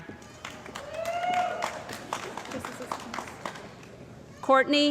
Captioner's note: cheering & Applause